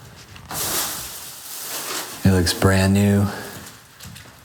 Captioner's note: plastic rustling